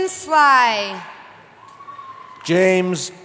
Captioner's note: cheering